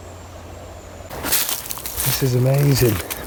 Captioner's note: leaves rustling